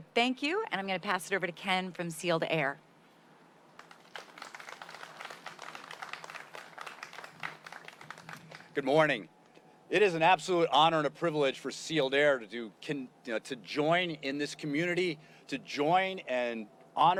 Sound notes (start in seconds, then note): 8.5 applause